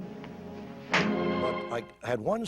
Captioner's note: hand slaps